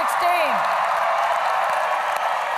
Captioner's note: applause